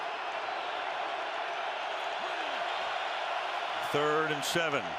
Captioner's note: cheering